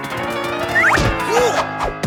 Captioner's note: pained grunt and thud